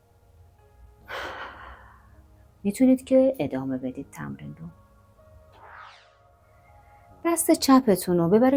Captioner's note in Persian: صدای آه